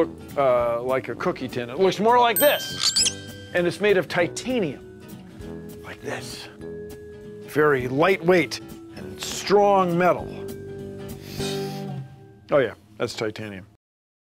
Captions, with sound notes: like a cookie tin. It looks more like this. (bell rings) And it's made of titanium, like this. Very lightweight and strong metal. (sniff) Oh yeah, that's titanium.